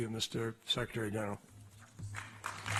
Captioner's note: applause